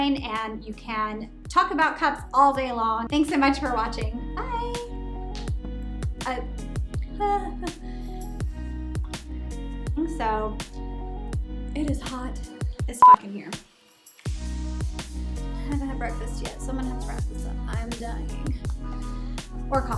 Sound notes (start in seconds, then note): 13.0 beeps